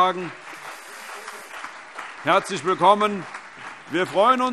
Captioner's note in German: Allgemeiner Beifall